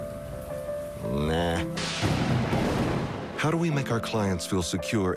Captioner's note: thunder